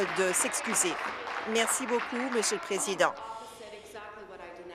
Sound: applause

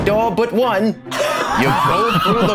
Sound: laughs

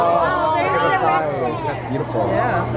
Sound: excited exclaiming

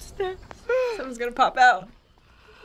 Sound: whispers

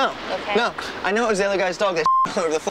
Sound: beep

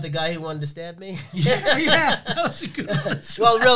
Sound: laughing

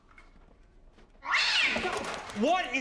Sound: cat yowling again

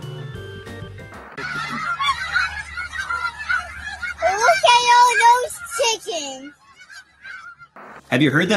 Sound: birds honking

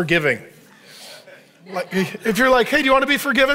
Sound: congregation laughing

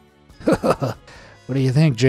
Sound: narrator laughing

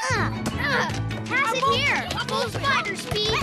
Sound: playing chatter

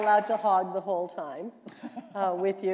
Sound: applause

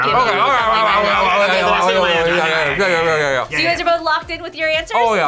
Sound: rambling

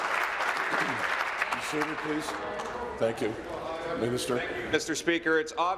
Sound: applause

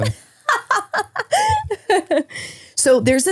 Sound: laughs

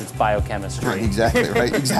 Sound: haha

